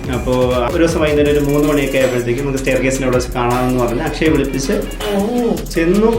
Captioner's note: sensual noises